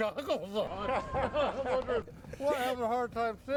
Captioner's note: all laughing